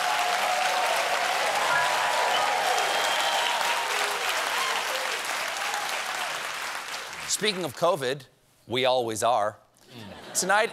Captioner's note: cheers and applause